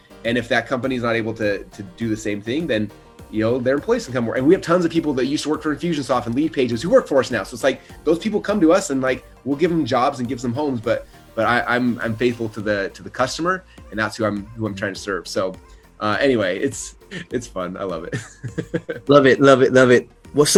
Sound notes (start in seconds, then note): 18.0 laughs